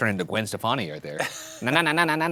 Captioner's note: chuckles